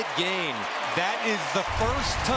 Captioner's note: cheering